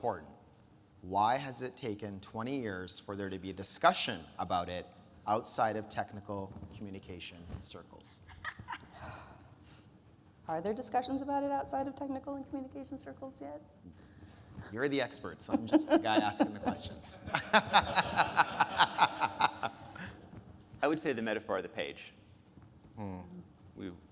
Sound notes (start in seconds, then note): 17.5 speakers laughing